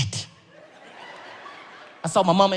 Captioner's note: audience laughs